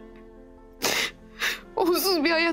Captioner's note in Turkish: Ağlama sesi